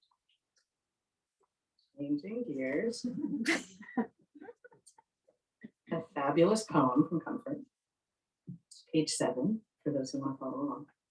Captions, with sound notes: Changing gears. [laughing] A fabulous poem from Comfort--page seven for those who want to follow along.